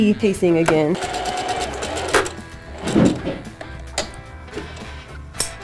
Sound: sewing machine whirring

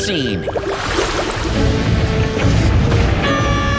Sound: stomping; screaming

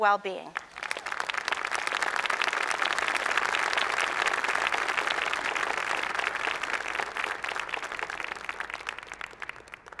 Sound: applause

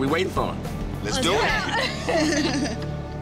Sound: laughter

